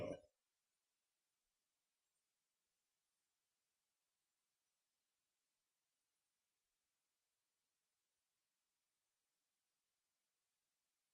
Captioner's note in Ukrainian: тиша